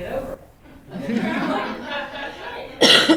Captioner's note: laughter